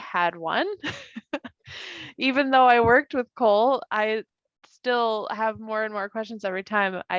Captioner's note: laughs